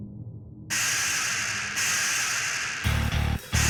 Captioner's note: scorpions hissing; intense rock music